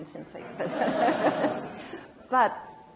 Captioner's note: audience laughs